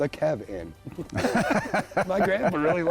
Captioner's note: both laugh